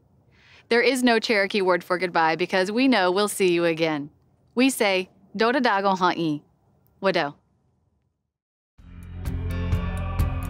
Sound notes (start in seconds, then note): 5.1 speaks Cherokee language; 8.8 theme music